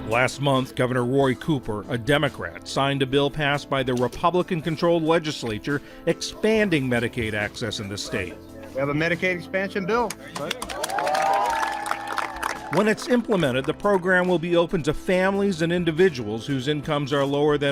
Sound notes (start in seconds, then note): 10.0 group applauds